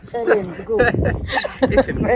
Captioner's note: both laughing